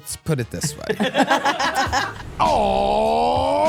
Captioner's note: energetic music; everyone laughing